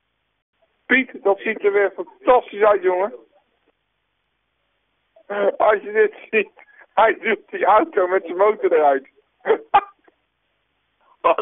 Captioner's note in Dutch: gelach